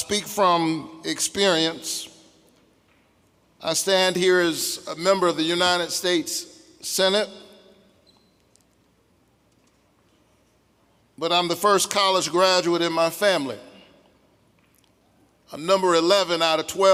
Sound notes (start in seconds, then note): none